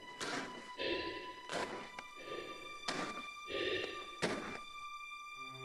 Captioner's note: Chemock breathes heavily